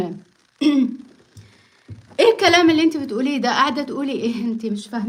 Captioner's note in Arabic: تنحنُح